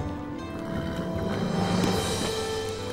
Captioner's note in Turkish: At kişniyor